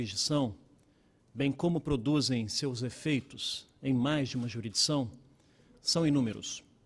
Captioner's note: speaking Portugese